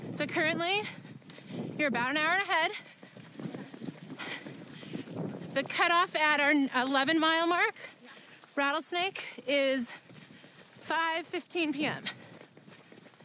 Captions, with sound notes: So, currently you're about an hour ahead. [Heavy breathing] The cutoff at our 11 mile mark, Rattlesnake is 5:15 p.m.